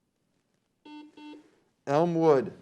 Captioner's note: beep